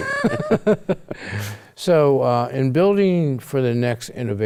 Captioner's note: both laugh